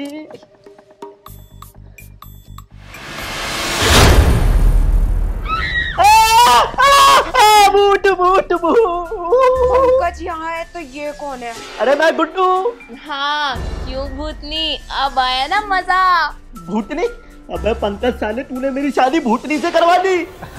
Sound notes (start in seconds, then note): 6.0 shouting